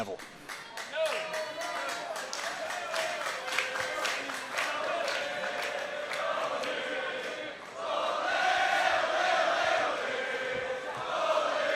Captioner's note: crowd cheering